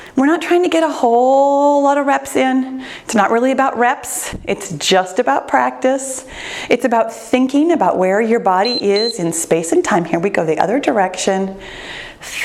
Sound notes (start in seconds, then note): 8.6 timer beeps